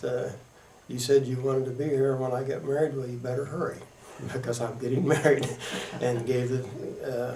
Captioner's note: laughter